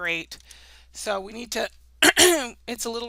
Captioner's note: clears throat